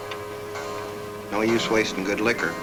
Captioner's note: clock chimes